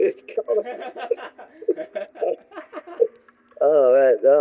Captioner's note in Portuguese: risadas